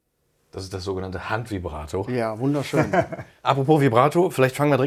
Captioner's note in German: gelächter